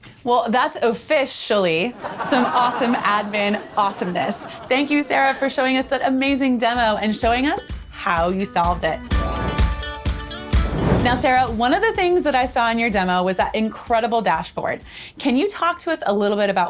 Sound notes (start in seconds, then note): 1.8 studio audience laughing; 7.5 bell dings; 9.1 upbeat music